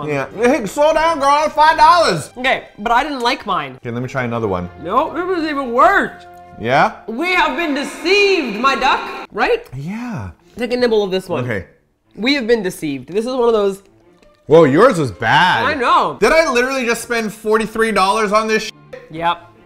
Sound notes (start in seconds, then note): 7.3 with reverb effect